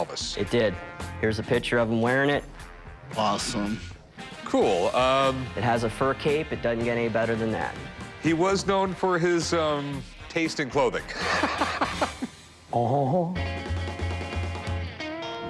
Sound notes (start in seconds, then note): 11.1 laughs; 12.3 imitates elvis